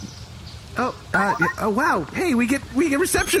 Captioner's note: communicator chimes; laughter